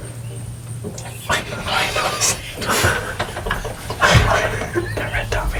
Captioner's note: laughter